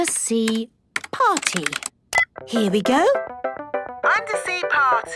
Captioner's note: beep